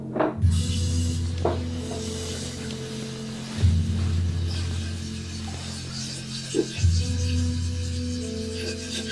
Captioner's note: sound of water filling pitcher